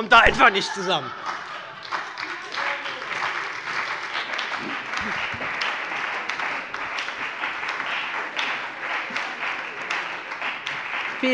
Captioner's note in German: Heiterkeit und Beifall bei der SPD und der FDP